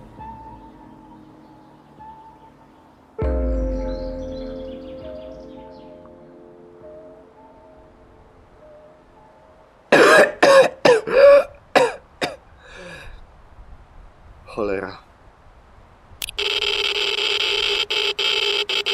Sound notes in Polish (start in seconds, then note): 9.9 kaszel